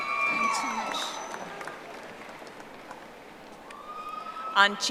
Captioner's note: audience applauding